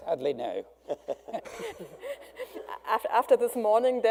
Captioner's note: laughing